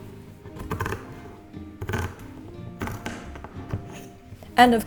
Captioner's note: scissors snipping